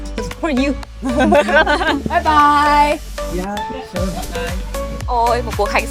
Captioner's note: laughing